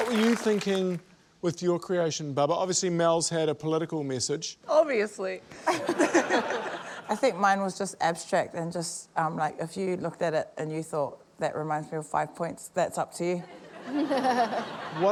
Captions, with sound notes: What were you thinking with your creation, Bubbah? Obviously, Mel's had a political message. - Obviously. (LAUGHTER) - I think mine was just abstract, and just, like, if you looked at it and you thought, 'That reminds me of five points,' that'sup to you.